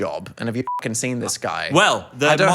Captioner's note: beep